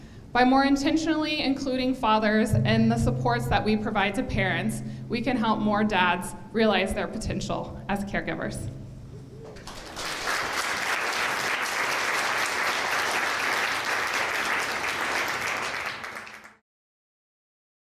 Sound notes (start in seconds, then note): 9.5 applause